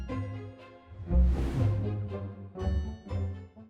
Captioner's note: graphics whooshing